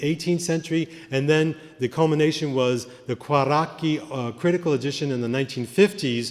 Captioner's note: italian